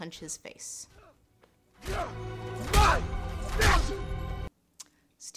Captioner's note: punching sounds